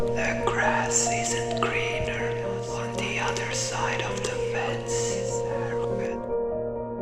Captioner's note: whispering